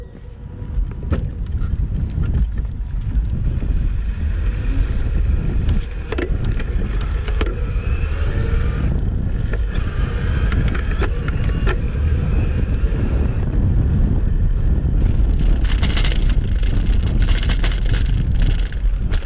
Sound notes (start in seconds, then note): 5.3 motor whirring; 13.4 wind rustling; 15.0 fenders rattling